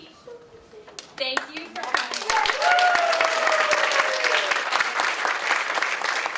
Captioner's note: audience applauds